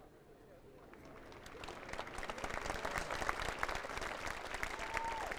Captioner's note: audience applauding